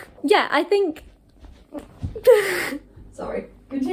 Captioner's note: stumbles and laughs